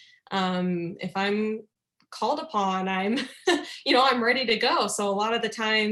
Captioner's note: laughter